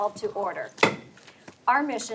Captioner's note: gavel thumps